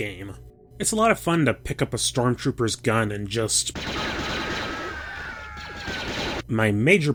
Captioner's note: pewpewpewpew